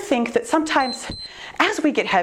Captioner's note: timer beeps